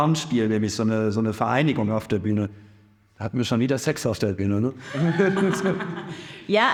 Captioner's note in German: lacht